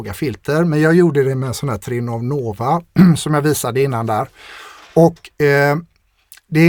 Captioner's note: clears throat